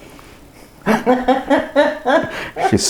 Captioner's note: laughs